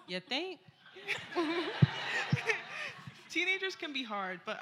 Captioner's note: laughter